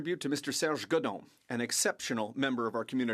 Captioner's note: speaking French